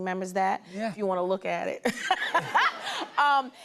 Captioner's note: laughter